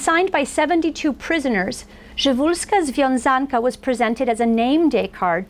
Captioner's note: foreign language